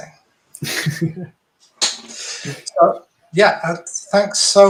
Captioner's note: chuckling